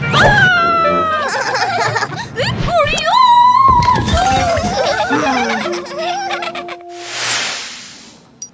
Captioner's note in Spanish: Risas